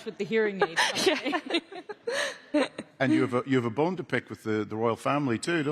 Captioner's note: laughter